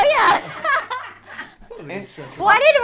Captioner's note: all laugh